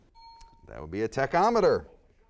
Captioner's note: bell dings